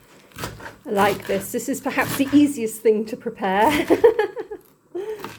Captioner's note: laughing